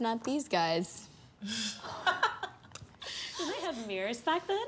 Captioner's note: laughs; girls laugh